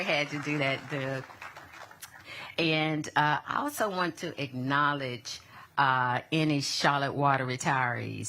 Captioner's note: applause